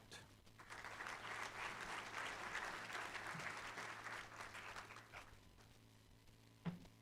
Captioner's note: applause